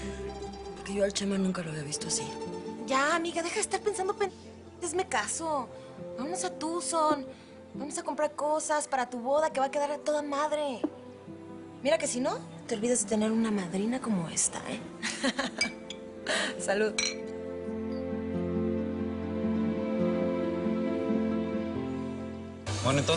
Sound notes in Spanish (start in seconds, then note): 15.0 Ríe